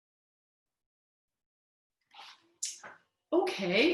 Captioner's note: silence